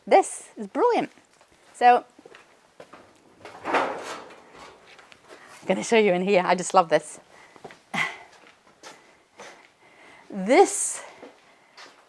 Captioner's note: door opening